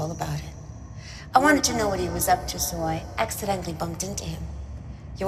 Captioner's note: voice echoes